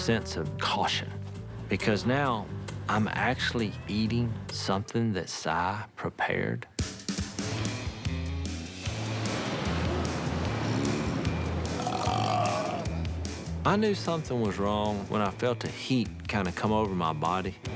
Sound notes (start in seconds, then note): 6.1 upbeat music; 11.7 burp